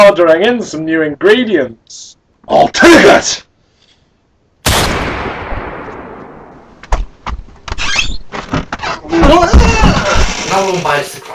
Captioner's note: gunshot